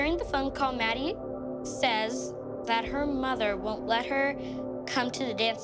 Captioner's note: none